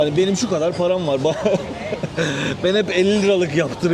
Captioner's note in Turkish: kahkaha